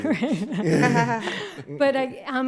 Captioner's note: laughing